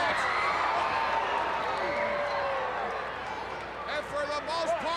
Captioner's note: crowd cheering